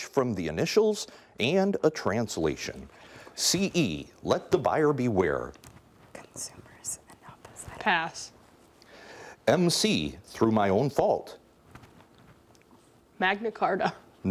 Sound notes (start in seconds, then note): 5.6 whispering